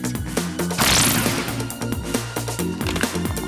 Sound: laser shooting

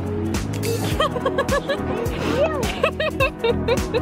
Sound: laughing

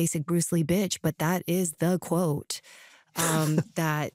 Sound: chuckles

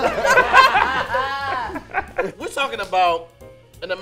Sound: group laughs

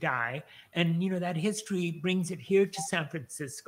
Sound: none

